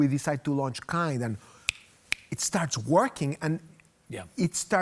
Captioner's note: snapping